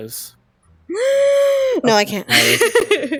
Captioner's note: gasp